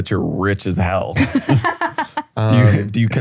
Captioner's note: laughing